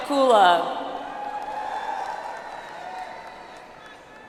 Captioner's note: audience applauds